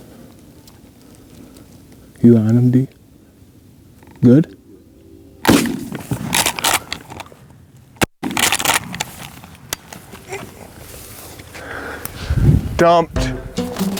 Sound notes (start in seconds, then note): 5.4 gun roars; 13.1 upbeat music